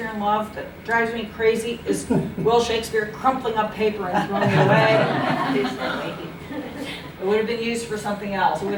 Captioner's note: laughter